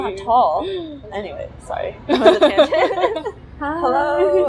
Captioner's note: both chuckle